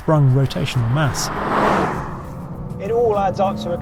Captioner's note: vehicle revs